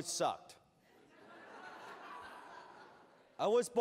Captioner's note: laughter